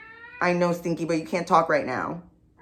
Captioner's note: Stinky yowling